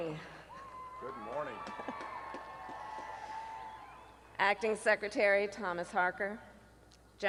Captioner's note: applause